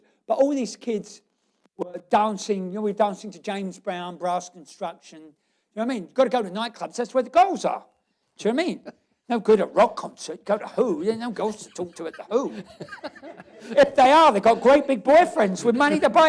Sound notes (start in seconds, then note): 12.7 laughs